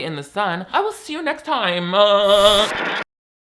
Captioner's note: TV static